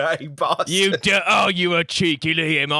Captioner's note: cockney accent